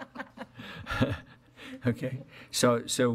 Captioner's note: laughing